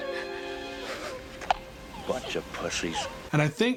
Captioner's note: laughs